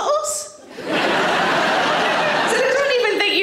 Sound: audience laughing

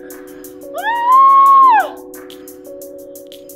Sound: screams

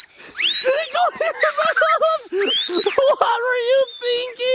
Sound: screams; continues screaming

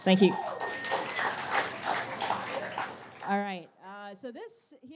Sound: audience cheers and applauds

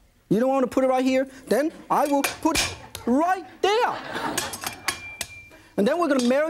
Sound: audience laughs

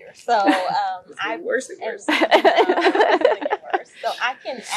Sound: laugh

